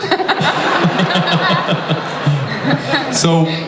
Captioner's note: audience laughs